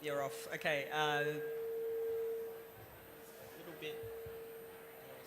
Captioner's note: microphone feedback